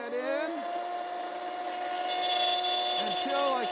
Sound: saw revving

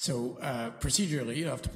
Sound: quietly

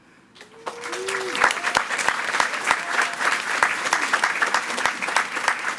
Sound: attendees cheering and clapping

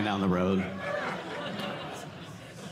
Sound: audience laughing

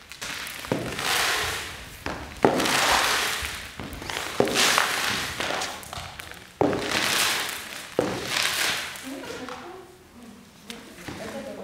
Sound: sound of muffled conversation and sweeping the floor

